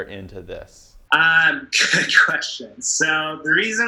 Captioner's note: laughing